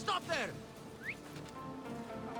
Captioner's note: whistle